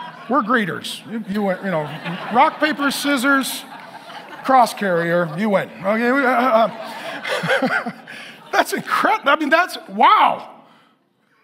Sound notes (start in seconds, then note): 2.1 congregation laughing; 6.3 laughs; 7.0 congregation laughing